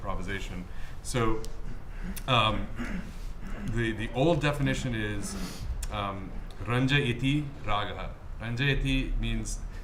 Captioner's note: speaking hindi